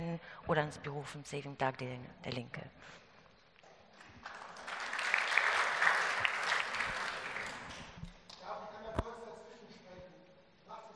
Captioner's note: Applaus und unverständliche Zuschauerwortmeldung